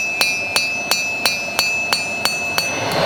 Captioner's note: bell